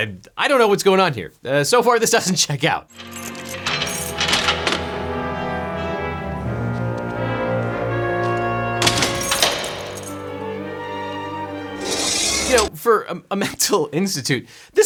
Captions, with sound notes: I don't know what's going here. So far, this doesn't check out. (keys clinking) (dramatic music) (door clicking) You know, for a mental institute,